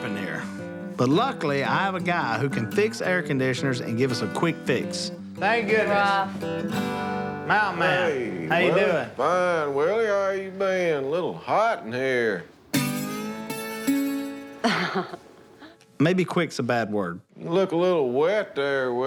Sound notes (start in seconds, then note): 14.6 chuckles